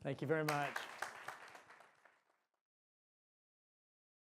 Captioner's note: applause